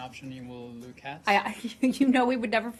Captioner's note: laughter